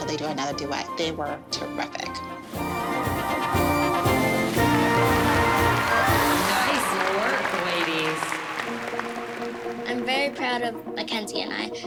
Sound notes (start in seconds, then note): 4.4 applause